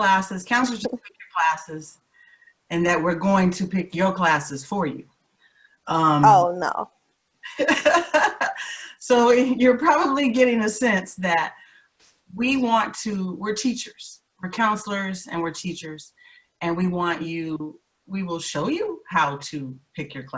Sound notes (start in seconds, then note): 8.2 laughs